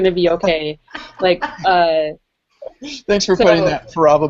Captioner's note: laughter